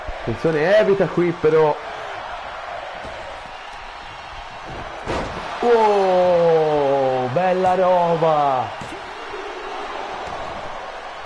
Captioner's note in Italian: Applauso